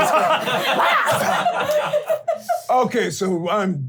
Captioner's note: laughing